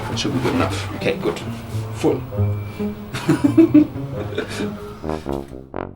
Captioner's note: giggle